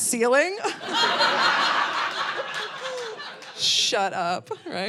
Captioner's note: audience laughing